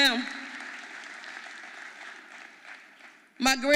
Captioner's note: audience applauding